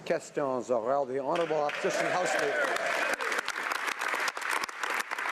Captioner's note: applause